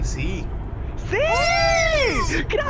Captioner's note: celebration noises